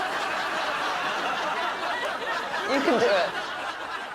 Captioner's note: audience laughing